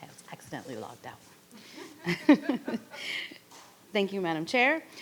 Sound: chuckles

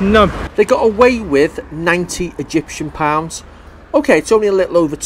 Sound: voiceover

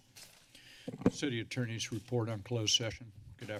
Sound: mic noise

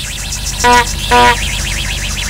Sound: beep beep

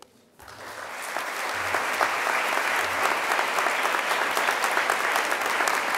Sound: audience applause

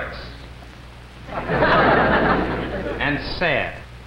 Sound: crowd laughs

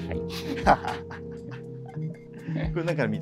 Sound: laughing

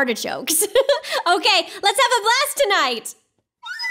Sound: laughs; tense flute music

